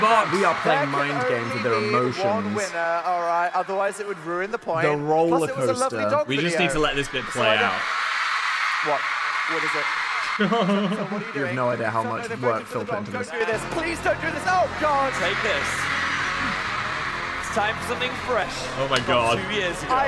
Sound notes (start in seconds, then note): 7.8 audience cheering; 10.4 laughing; 16.1 upbeat instrumental music